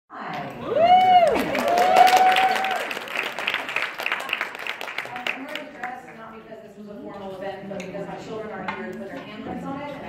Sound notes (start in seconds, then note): 0.5 crowd Cheering